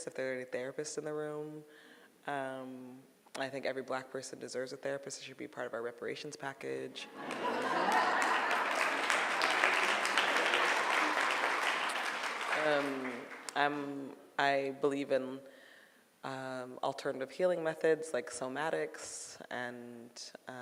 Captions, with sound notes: If there are any therapists in the room, I think every black person deserves a therapist, I think it should be part of our reparations package. (audience laughing and clapping) I believe in alternative healing methods like Somatics and